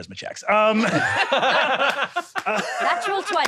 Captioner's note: all laughing